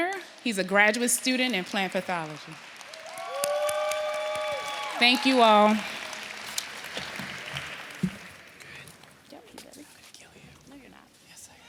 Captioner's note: applause